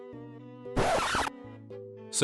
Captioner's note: record scratch